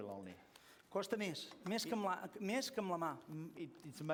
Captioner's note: non-english speech